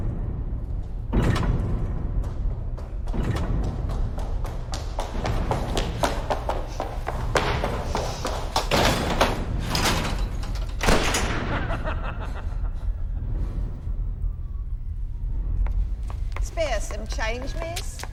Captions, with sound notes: ( evil laughter ) SPARE US SOME CHANGE, MISS?